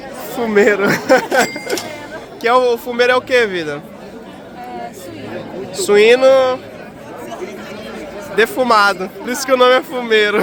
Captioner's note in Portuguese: risadas